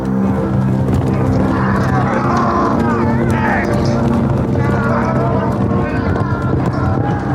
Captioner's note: grunting; yelling